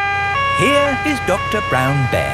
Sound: siren wailing

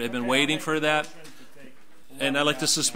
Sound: mumbles

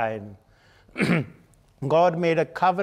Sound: clearing throat

